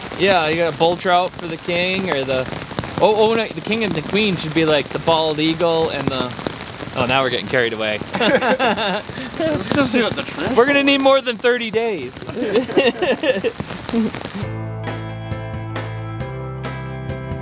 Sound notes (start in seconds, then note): 8.1 laughs; 14.6 lively music